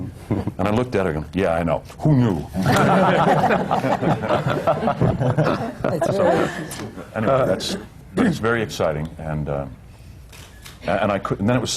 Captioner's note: laughter